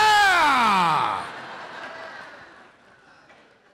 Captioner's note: laughter